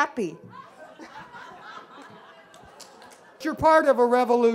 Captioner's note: laughing